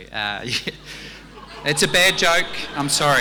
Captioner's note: audience laughing; audience groaning